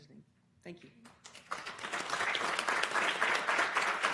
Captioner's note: applause